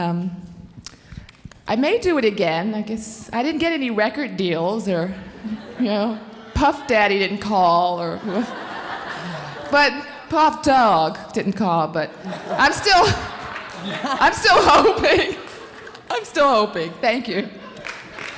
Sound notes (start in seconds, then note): 8.1 audience laughing